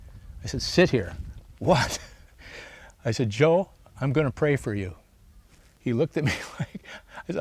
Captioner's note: laughs